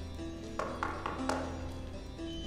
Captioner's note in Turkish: Kapı Çalıyor